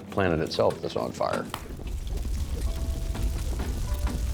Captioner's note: fire roaring